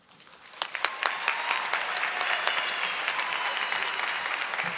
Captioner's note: audience clapping